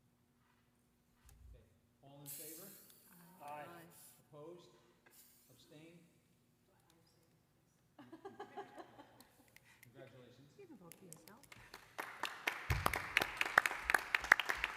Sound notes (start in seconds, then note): 8.0 laughing; 11.5 applause